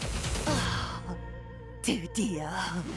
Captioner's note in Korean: 클린 비의 한숨